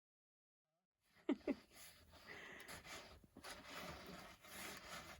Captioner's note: laughters